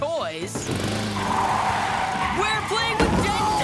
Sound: tires screeching

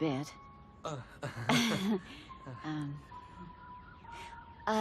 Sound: chuckling

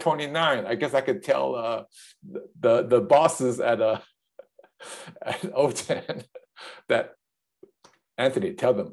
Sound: laughs

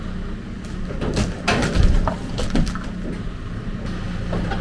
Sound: log banging; engine running

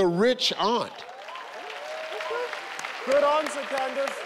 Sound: audience cheering

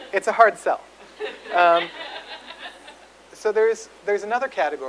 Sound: audience laughs

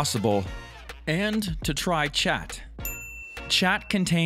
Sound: bell dings

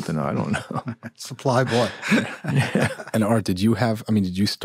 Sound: laughter

